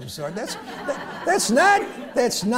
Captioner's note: laughter